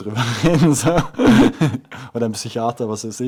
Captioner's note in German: laughs